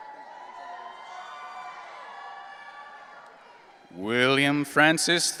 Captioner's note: audience cheering